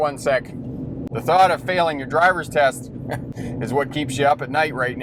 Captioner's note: scoffs